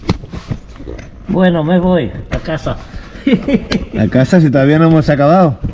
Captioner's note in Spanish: risa nerviosa